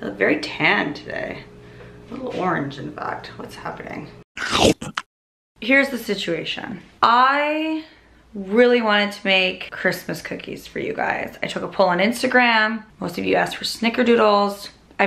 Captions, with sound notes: - I look very tan today, a little orange, in fact. What's happening? (gulps) Here's the situation, I really wanted to make Christmas cookies for you guys. I took a poll on Instagram, most of you asked for snickerdoodles.